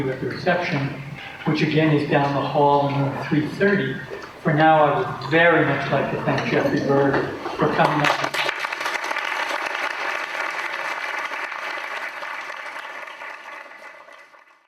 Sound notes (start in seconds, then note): 8.2 applause